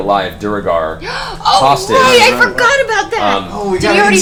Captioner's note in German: keucht auf